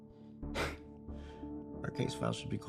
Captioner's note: Kenny scoffs